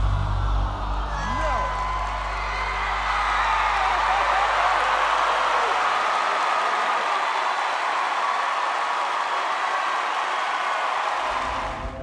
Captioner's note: cheering